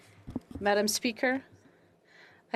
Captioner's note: speaking French